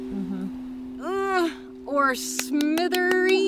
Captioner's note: groans